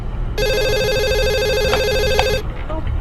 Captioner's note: phone rings